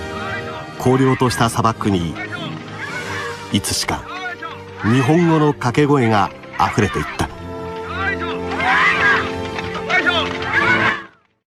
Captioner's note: cheers / heave ho